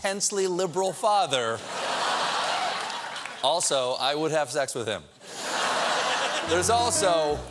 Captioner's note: laughter